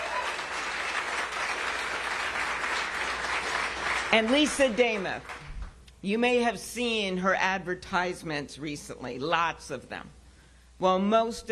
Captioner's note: cheers and applause